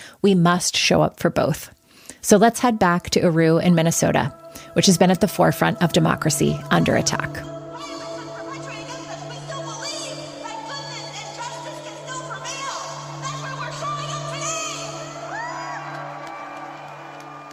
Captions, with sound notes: we must show up for both. So let's head back to Aru in Minnesota, which has been at the forefront of democracy under attack against us. [chanting] We still believe, that goodness, and justice can still prevail. That's why we're showing up today. [cheering]